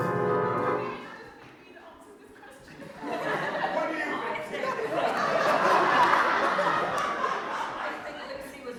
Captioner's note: audience laughter